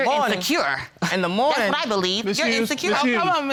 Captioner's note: scoffs